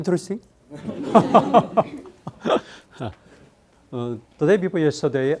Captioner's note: students and laughing